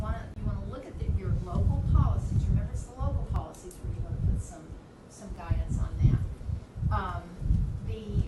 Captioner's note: none